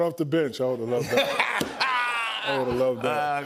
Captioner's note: laughter